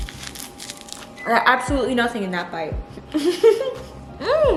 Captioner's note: laughs